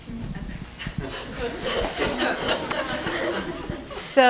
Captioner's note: laughter